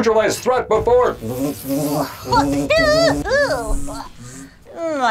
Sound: buzzing

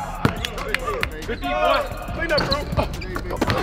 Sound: clapping

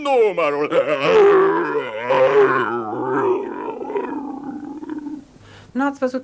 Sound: rage

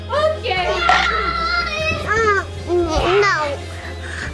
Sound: crunching; screaming

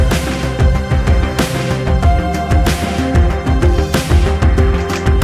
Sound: оплески

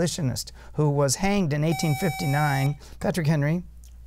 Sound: buzzer

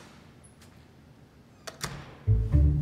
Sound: door closes

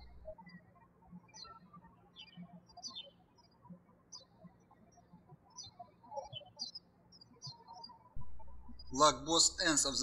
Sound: birds chirping

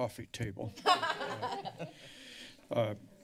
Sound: laughter

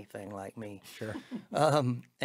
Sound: giggling

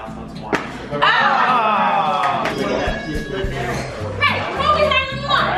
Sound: group groans

